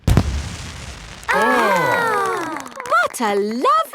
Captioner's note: exclamations